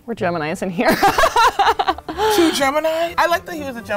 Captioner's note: laughing